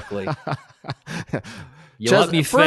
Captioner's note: laughing